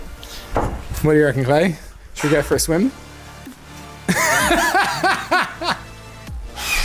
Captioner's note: laughs